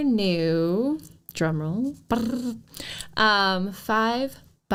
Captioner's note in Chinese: 口擬鼓聲~~